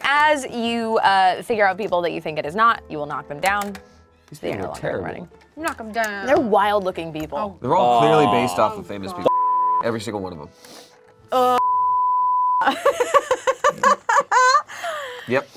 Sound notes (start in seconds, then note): 9.3 beep; 11.6 beep; 12.6 laughs